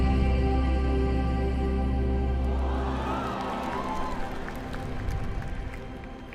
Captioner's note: cheers and applause